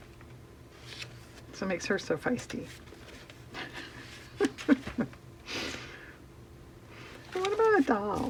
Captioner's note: laughs